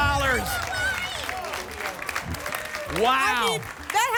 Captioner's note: applause and cheering